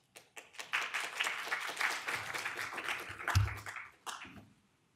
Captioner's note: audience applause